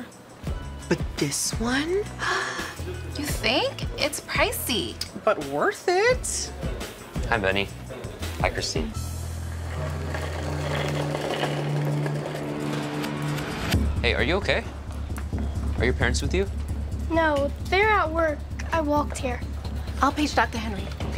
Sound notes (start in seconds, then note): 2.2 Christine gasps